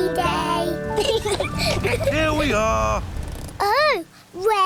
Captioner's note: both laugh